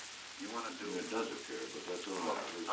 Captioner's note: production chatter